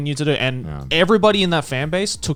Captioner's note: affirmative murmuring